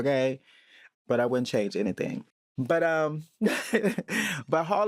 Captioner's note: laughs